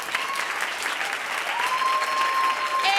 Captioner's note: cheering